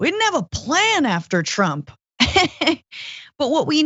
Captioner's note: laugh